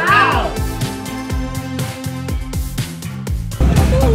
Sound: cheering

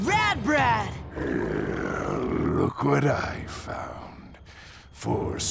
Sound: growls

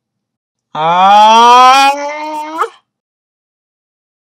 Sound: lowering the tone of voice

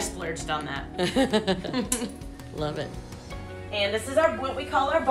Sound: laughing

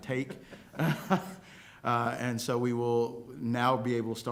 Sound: laughter

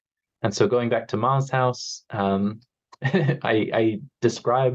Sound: chuckles

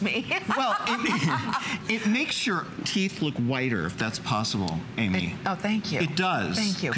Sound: laughter

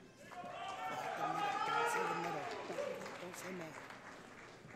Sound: cheering

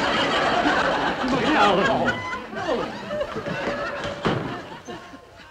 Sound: audience laughing

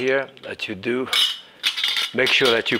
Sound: food mill clinking

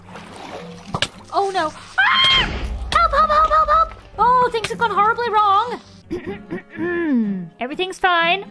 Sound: clears throat

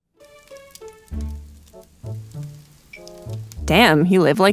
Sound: fire crackling

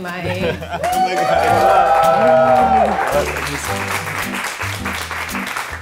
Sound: crowd cheering and clapping

